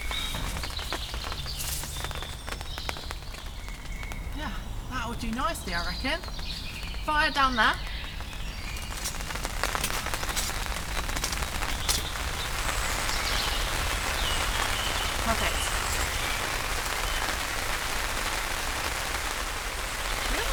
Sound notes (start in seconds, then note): 0.0 pitter patter of rain; 8.9 rain